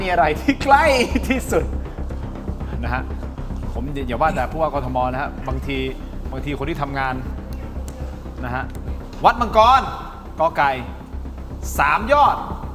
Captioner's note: laughter; laughter